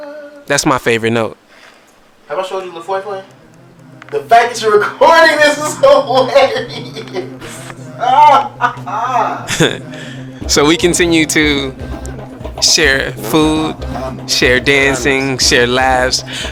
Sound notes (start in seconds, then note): 7.5 laughs Triumphantly